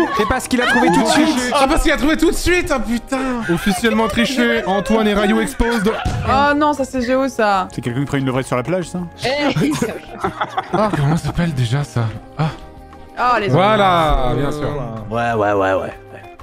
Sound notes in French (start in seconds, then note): 9.4 Rires